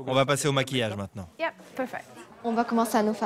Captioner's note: in English